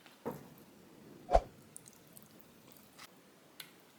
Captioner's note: whoosh